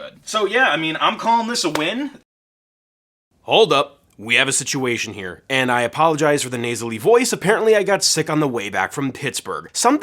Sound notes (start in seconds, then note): none